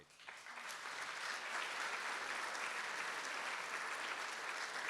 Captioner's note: audience applauding